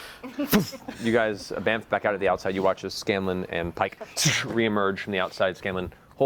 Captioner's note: poof